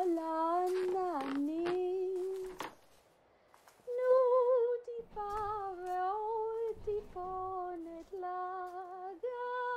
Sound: footsteps on creaky floorboards, woman rummaging

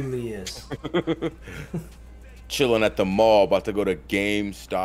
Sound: laugh

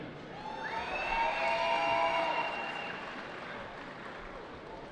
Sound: cheering

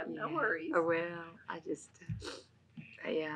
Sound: laughs

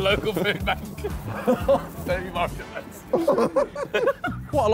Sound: all laughing

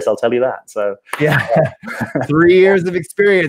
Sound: chuckles

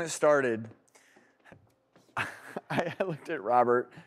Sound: laughs

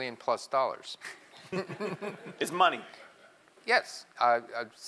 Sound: laugh

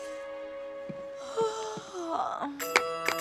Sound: yawning

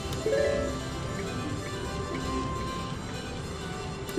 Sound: machine beeps

